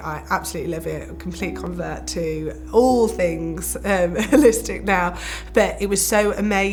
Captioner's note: chuckles